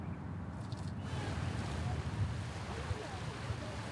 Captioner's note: waves crashing